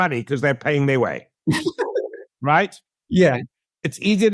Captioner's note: laugh